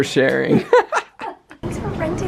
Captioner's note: laughter